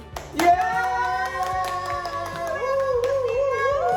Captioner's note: families cheering